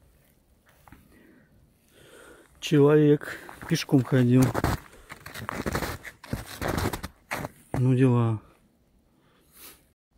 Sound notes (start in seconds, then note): 3.2 snow crunching